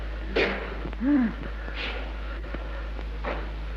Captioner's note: mother moans